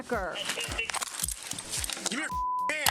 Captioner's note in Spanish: esposas tintineando